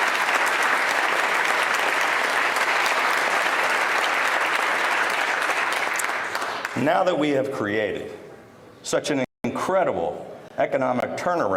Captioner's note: applause